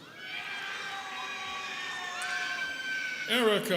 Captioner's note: students cheering